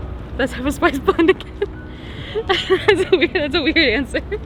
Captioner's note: laughing